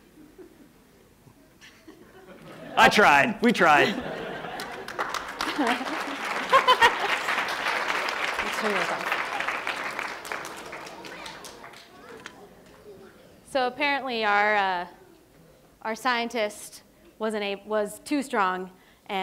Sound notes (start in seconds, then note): 3.8 laughter; 5.0 applause; 6.5 laughs